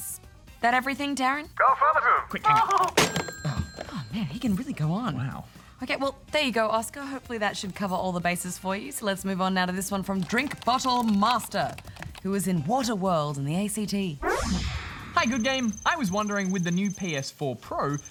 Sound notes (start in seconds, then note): 1.6 laughs